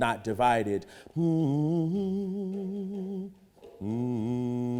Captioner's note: humming